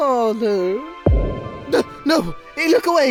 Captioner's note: boom